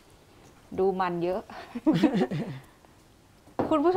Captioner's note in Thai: เสียงหัวเราะ